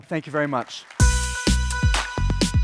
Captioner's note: applause